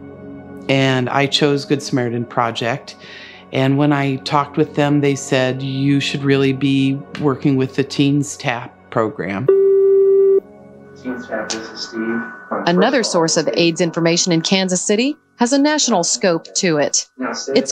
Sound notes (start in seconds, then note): 9.5 phone beeps